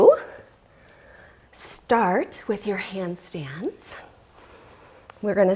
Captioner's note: deep breathing sounds